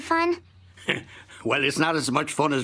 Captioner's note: chuckle